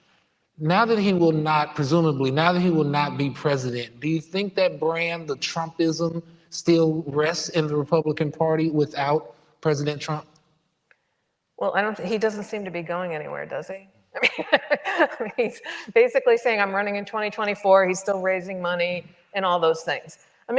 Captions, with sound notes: Now that he will not presumably, now that he will not be President, do you think that brand, the Trumpism still rests in the Republican party without President Trump? - Well, I don't think he doesn't seem to be going anywhere, does he? (chuckles) I mean, he's basically saying I'm running in 2024. He's still raising money and all those things.